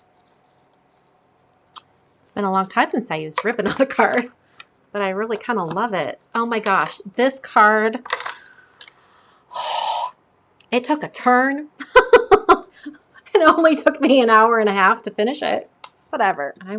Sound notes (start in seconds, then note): 12.5 laughs